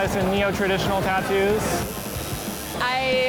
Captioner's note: tattoo needle buzzes